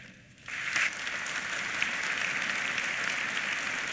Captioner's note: applause